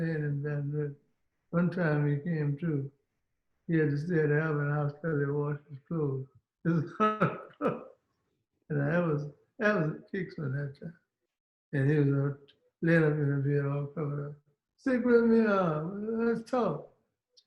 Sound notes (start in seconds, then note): 6.7 laughs